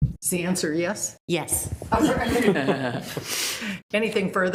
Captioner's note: members laughs